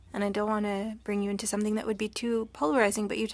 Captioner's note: speaking french